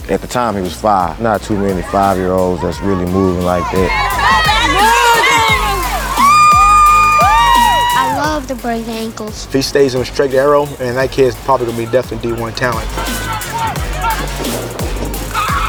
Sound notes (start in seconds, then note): 4.0 people cheer; 13.4 fan chatters; 15.5 fan cheers